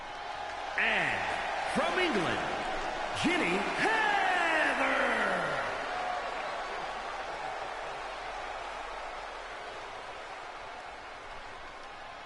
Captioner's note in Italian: Applauso